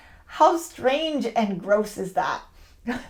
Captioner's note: scoffs